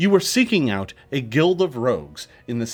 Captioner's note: none